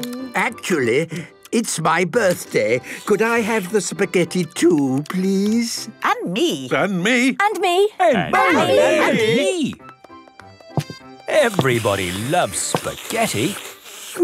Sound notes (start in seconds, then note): 6.2 calling out in turn